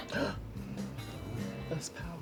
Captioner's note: gasps